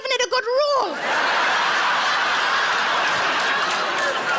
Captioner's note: audience laughs